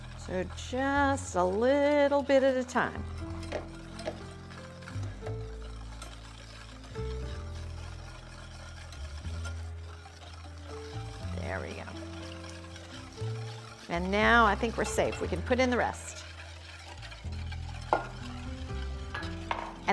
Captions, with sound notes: So just a little bit at a time. (slow relaxing music continues) There we go. (whisk whirring) And now I think we're safe, we can put in the rest.